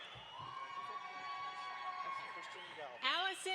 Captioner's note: audience applauds